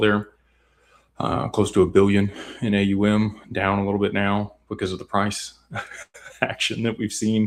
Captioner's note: laughter